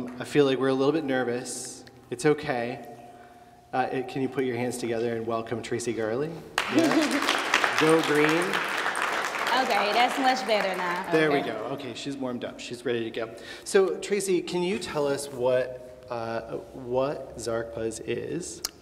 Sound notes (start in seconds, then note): 6.5 applause